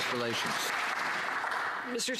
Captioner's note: some Applause